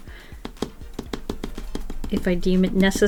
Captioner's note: finger tapping